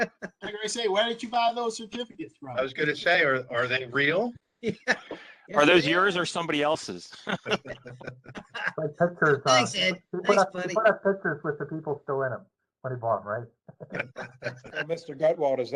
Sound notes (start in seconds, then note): 0.0 laughter; 4.7 laughter; 7.1 laughter